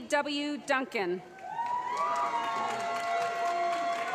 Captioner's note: applause